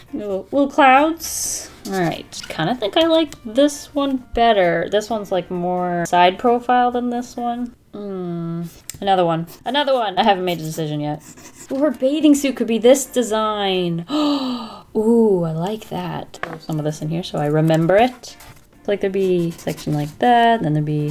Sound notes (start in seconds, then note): 14.1 gasps